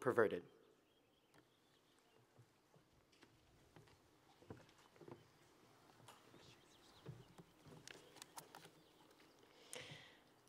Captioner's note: birds Chirping Sounds